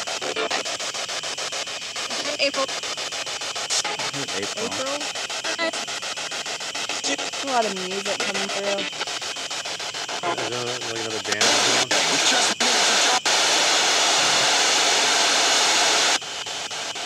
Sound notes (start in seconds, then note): 2.2 radio Voice; 12.4 static pulsing